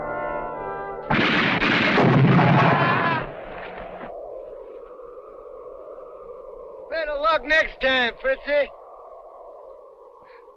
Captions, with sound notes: (gun firing) (man screaming) - Better luck next time, princy!